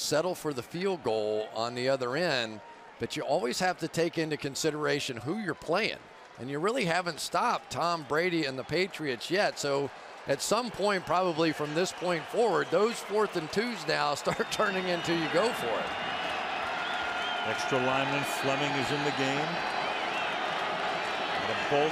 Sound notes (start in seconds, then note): 16.5 cheering